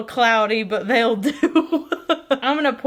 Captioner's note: giggling